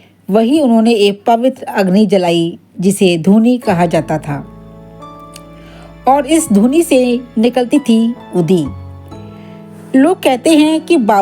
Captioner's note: fireplace